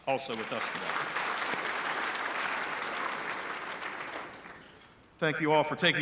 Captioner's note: applause